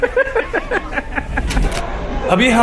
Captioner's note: both are laughing